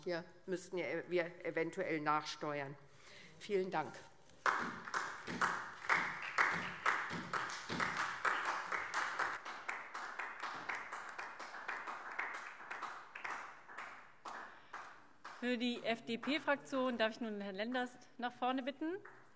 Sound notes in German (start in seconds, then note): 7.9 Beifall SPD